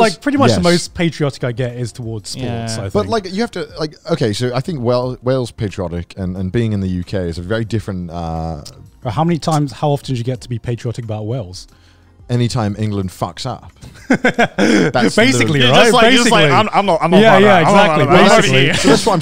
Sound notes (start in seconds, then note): 13.9 laughs